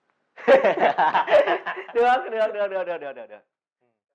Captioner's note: laugh